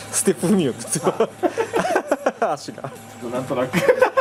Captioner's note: laughs